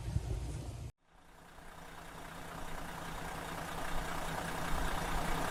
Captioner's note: sound of truck idling